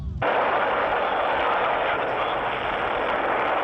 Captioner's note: planes roaring